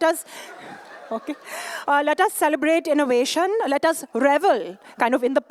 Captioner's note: laughter